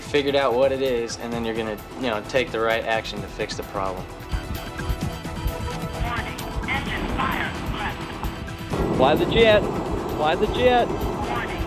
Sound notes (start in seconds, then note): 6.5 automated Voice